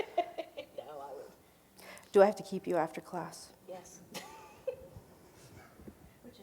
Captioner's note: laughing; laughing